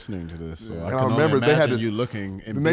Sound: group speaking together

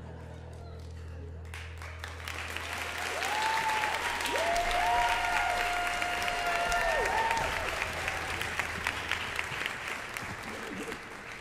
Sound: music stops; audience applause

